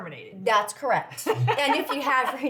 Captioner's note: laughs